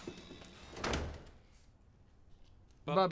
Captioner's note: door closes